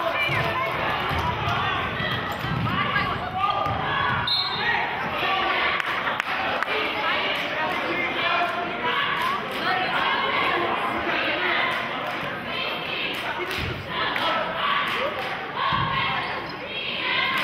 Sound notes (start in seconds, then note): 2.9 yelling; 4.2 whistling; 6.9 applauding and cheering; 11.5 chanting